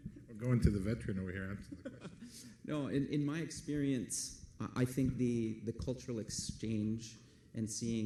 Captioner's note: laughs